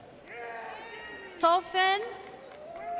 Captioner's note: audience cheers